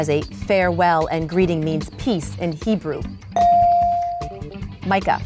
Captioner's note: bell dings